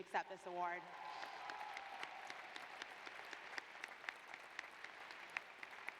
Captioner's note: applause